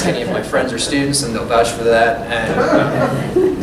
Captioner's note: laughter